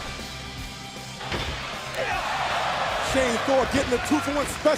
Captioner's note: crowd chatter